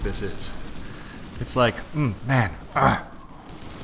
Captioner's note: grunts